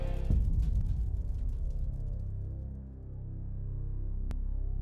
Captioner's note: fire crackling